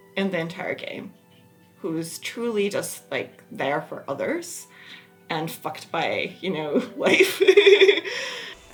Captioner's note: laughs